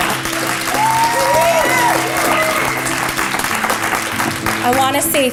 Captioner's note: applause